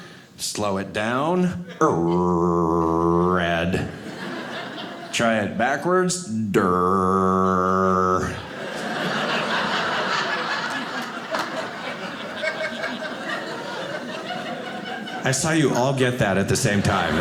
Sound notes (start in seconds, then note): 3.8 audience laughing; 7.4 audience laughing